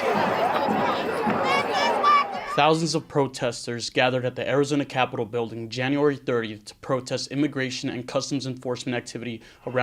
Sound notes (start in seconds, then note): 0.0 crowd chanting